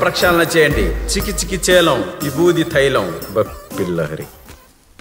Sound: Dummy chants

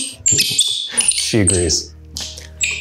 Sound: monkey squeaks loudly

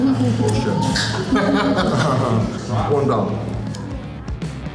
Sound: laughter

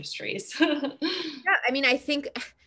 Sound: laughs

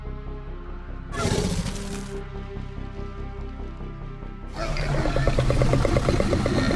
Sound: Scorpius Rex growls

